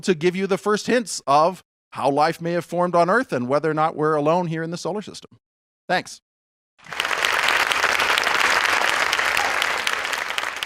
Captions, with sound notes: to give you the first hints of how life may have formed on Earth and whether or not we're alone here in the solar system. Thanks. (audience applauding)